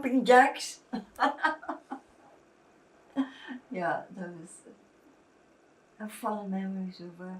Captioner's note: laughing